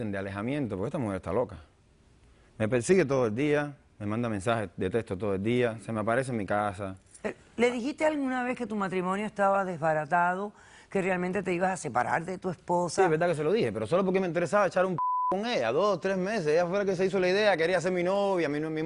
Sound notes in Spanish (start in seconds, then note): 15.0 Bip